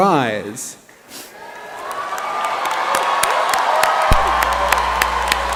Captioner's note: applause